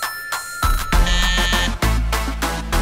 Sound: buzzer rings

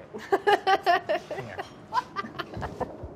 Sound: laughing

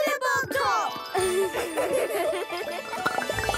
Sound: playful music; laughing

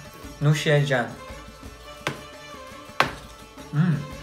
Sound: speaks in foreign language

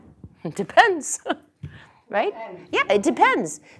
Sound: laugh

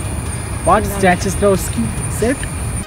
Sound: chatting

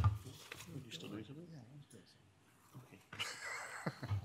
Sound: speaks faintly; man speaks faintly; speaks faintly; laughs

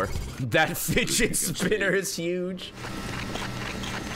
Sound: laughs

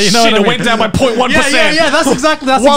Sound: both laughing

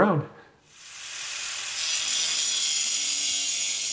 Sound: grinder buzzing

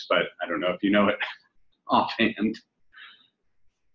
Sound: chuckles

